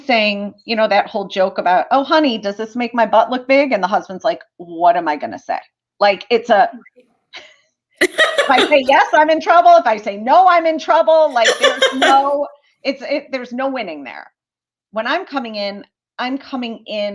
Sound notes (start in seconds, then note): 8.0 laughter